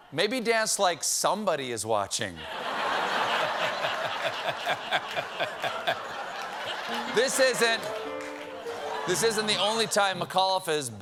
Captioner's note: laughter